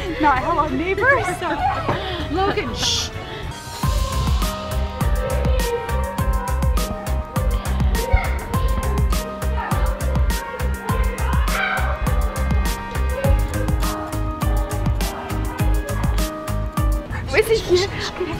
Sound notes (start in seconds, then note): 4.0 dramatic music; 11.8 boys screaming